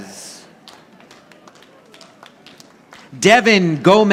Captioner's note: audience applauding